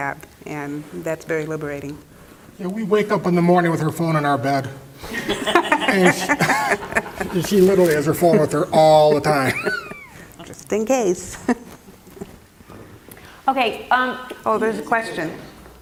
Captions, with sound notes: and that's very liberating. We wake up in the morning with her phone in our bed. [LAUGH] And she literally has her phone with her all the time. >> Just in case... >> Okay... >> Oh, there's a question. >> Oh, yeah.